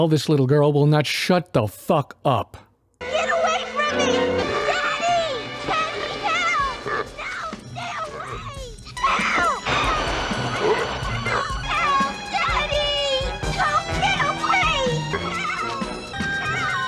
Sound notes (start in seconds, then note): 3.0 little Girl Screaming Her Head Off